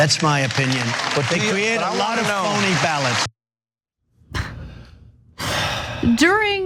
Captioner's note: applause